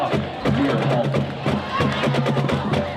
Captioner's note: crowd cheering; drumming; band playing